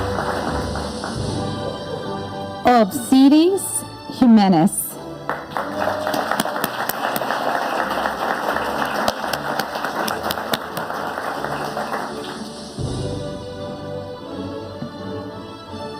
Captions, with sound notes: Obseris Jimenez. (audience applauding) (upbeat music)